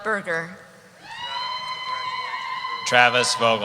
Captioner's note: cheering